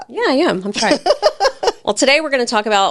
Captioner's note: laughs